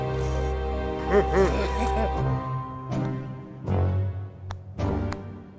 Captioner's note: guards laugh; hand pats